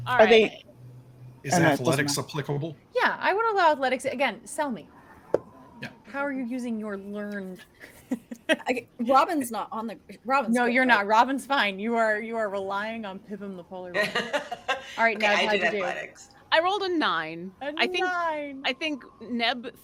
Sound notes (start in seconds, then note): 14.0 laughs